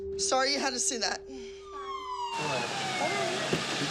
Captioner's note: police sirens